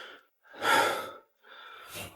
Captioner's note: sigh